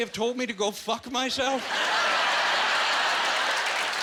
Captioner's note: laughing and applauding